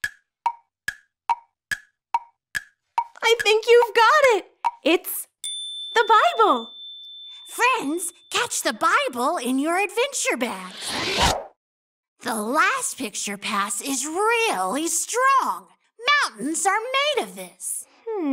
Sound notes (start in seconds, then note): 0.0 timer ticking; 10.6 dramatic whooshing